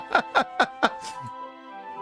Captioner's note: laughs